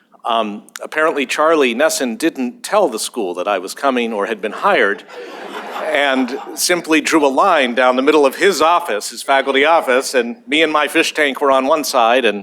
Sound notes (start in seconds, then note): 4.6 laughter